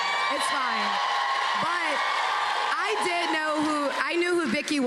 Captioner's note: cheers and applause